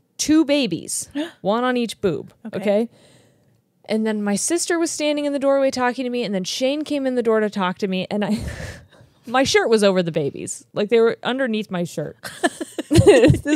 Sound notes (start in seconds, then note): 8.4 chuckles; 12.2 laugh